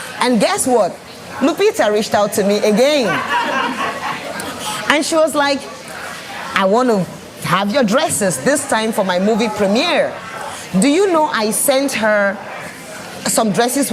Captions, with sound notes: And guess what? Lupita reached out to me again! [laughs] And she was like, "I want to have your dresses..." "this time for my movie premiere." Do you know I sent her some dresses